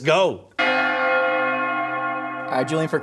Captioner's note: bells Ringing